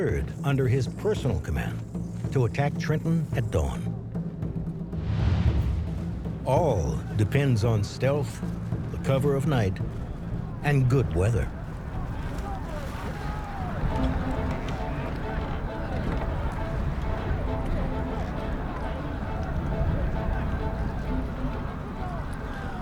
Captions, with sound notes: under his personal command, to attack Trenton at dawn. All depends on stealth, cover of night, and good weather. (splashing) (triumphant music)